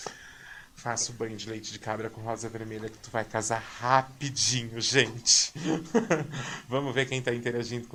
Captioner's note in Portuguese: risadas